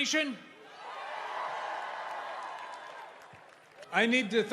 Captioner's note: kalabalık çığlık atıp tezahürat yapıyor